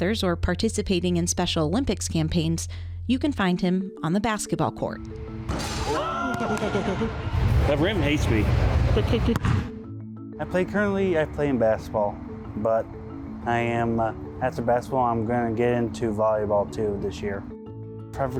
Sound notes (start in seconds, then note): 5.4 basketball ring clangs; 5.8 audience cheers; 6.0 laughs; 8.9 laughs